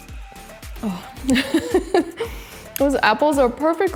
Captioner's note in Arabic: يضحك